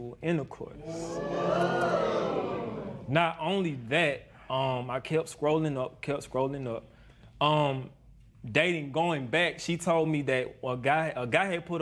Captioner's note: spectators murmur